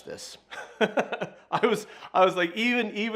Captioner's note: laughing loudly